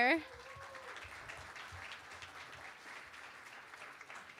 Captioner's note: applause